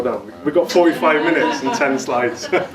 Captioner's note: audience laughs